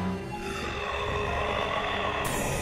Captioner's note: mummy snarling; intense music